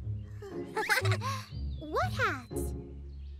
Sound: chuckles

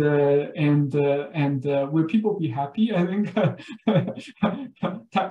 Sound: laughs

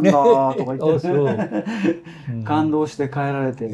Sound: laughs

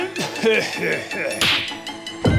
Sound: finger slap

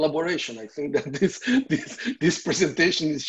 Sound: giggles

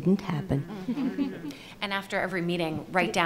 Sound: panelists laugh and murmur in agreement

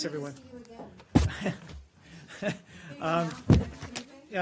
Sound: laughing

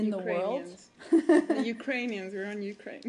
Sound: laughter

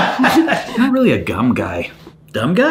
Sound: laughing

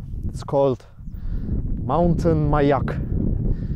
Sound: speaking foreign language

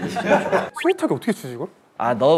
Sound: worried

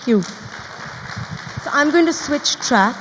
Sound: audience applauds

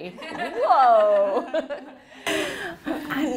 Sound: laughing

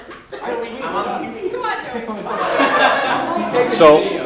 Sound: all chattering

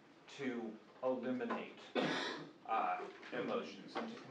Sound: coughing

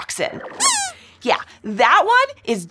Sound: squeaks squeaking

